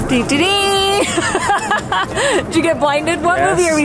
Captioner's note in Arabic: يضحك